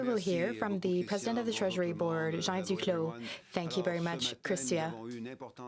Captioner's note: speaking French